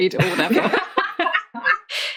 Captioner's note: laughing